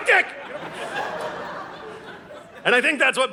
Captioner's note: audience laughing